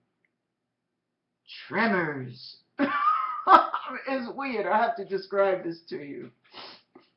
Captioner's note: chuckle